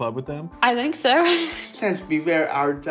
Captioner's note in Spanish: risas